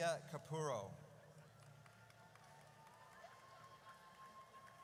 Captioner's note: audience cheers